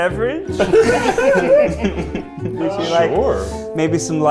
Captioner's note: all laugh